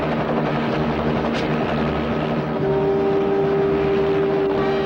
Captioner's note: gun clacks; dramatic music